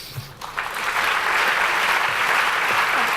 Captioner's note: applause